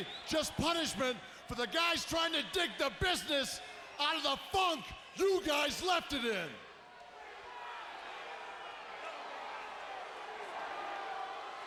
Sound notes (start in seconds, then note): 7.0 audience cheering